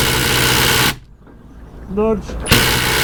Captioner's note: drill whirring